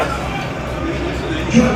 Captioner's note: laughing